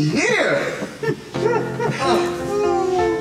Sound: laughing

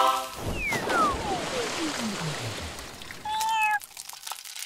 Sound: water splashing; cat meows

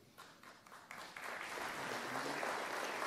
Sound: applause

